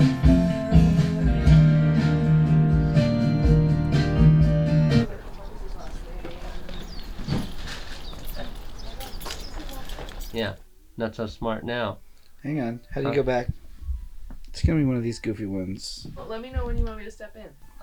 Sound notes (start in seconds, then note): 0.0 upbeat music; 5.9 birds chirping